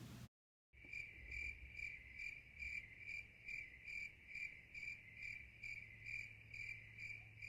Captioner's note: crickets chirp